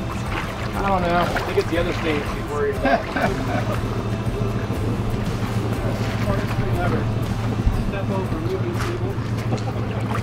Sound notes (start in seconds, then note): 1.7 male Voice; 2.4 men laugh; 4.7 uplifting music